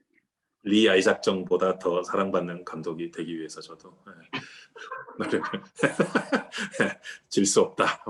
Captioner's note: laughs